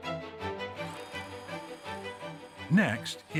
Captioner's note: whirring